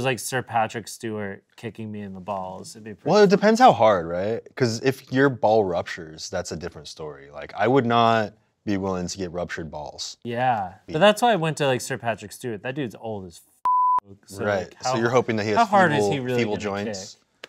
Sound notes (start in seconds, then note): 13.6 beep